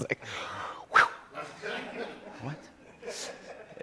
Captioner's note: exhales sharply